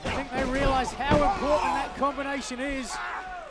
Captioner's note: crowd chatter